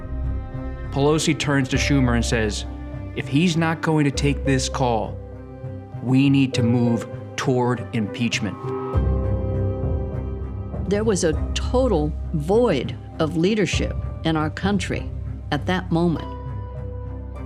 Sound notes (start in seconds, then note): none